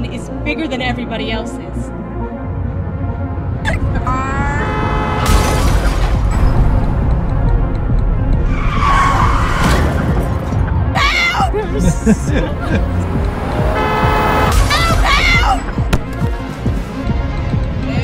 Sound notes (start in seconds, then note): 4.0 car honk; 5.2 crash; 6.4 sirens; 8.1 car swerve; 11.5 laughter; 12.8 car honk; 13.7 crash